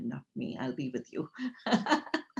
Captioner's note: laughs